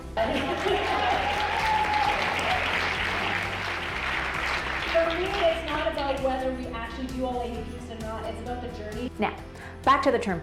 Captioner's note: audience applause